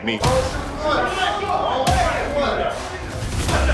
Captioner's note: yelling